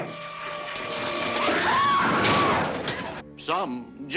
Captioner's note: screaming